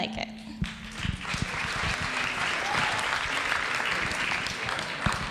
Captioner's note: audience applauds